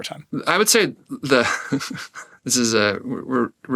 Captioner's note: laughs